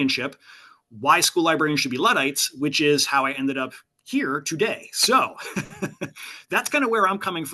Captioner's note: laughter